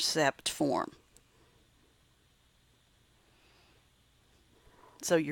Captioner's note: silent